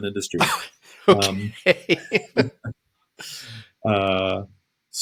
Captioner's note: laughter